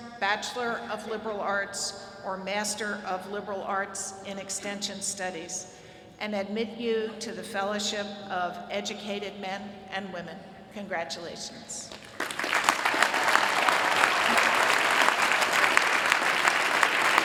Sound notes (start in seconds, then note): 11.8 applause